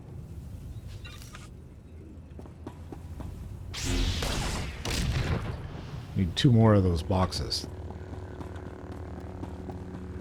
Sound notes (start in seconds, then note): 3.7 gunshots